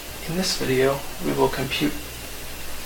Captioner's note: voiceover